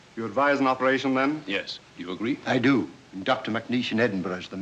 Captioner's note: none